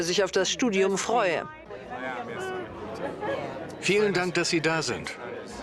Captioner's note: speaking softly